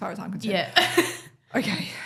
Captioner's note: laughs